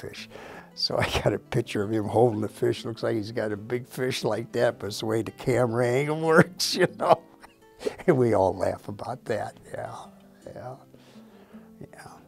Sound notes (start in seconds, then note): 6.3 laughs